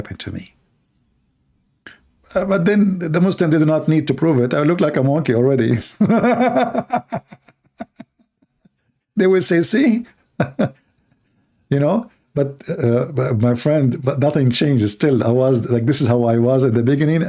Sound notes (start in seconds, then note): 5.9 Ketawa